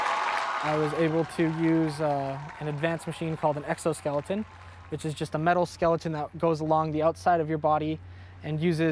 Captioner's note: cheers and Applause